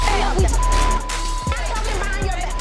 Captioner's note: beep